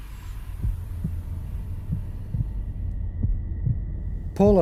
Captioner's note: heart beating